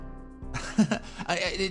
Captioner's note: chuckle